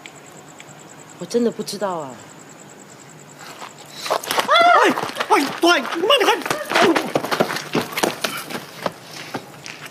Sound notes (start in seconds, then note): 4.4 MONICA screams; 6.7 OR KIA grunts